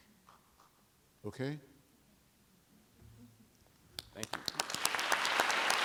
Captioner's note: applause